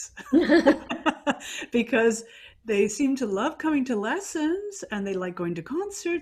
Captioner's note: laughing